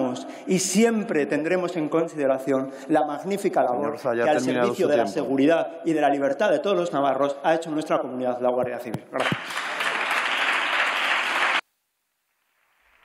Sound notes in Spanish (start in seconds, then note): 9.1 Aplausos